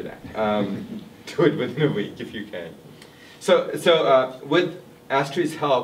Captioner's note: laughs